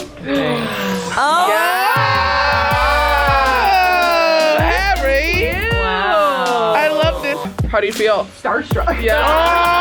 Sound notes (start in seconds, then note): 1.1 girls exclaiming; 9.6 girls laughing